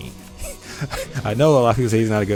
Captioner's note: chuckles